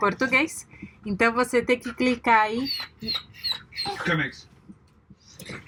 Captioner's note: Comex the dog making background noise